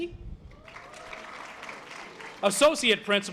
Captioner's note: audience applause